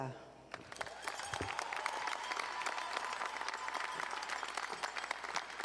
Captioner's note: audience cheering and applauding